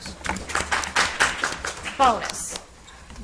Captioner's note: audience applauds